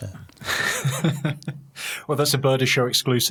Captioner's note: laughing